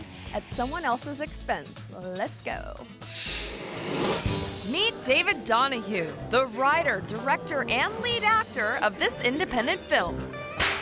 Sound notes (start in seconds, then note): 3.1 screen whooshes; 10.6 hands clap